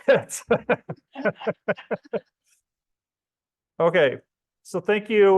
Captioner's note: laughs